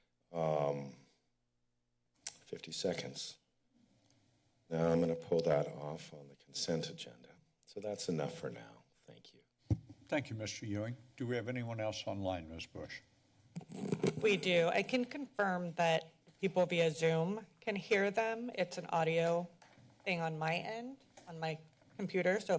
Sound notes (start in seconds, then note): 3.6 pause